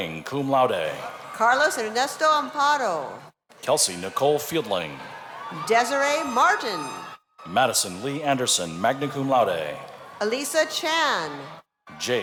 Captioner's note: cheers and applause